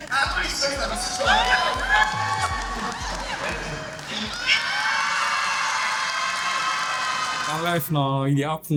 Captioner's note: cheering